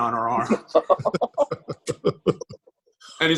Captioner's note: laughter